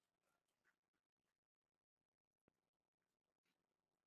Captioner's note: none